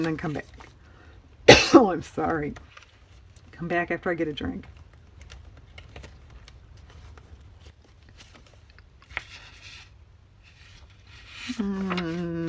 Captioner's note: cough